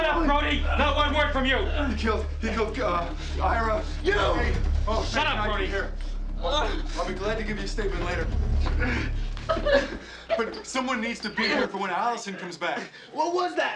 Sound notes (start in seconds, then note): 9.5 Hudson groaning; 11.3 whimpering